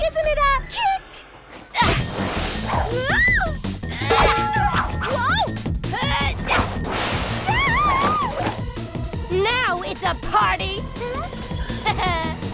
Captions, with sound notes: Whoa! Whoa! [SCREAMING] Now it's a party! Ha ha! But maybe we need to play a game.